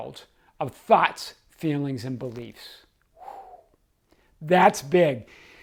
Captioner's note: exhaling